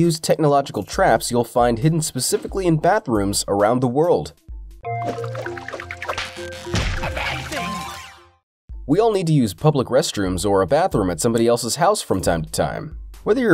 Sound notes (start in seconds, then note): 5.0 water splashing; 5.5 light playful music